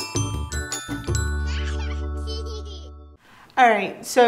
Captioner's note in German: Baby lacht